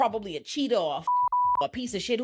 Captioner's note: beep